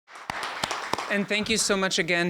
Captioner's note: applause